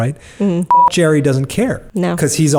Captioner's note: beep